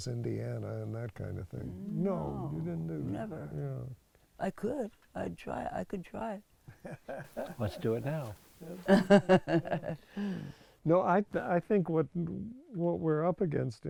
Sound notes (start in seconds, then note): 6.8 laughs